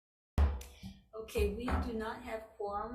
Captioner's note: gavel bangs